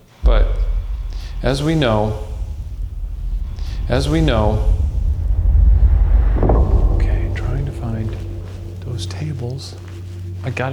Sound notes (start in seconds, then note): 2.2 air hissing; 5.5 air whooshing